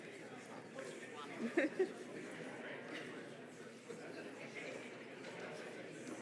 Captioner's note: faint overlapping chatter